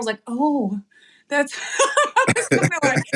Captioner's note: laugh